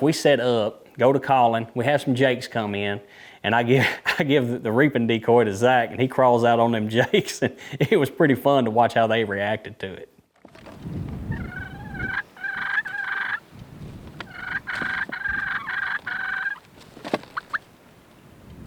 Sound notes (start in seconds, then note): 3.8 chuckling; 7.5 chuckling; 11.6 turkeys clucking and purring